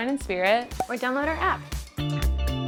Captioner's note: disco music; image popping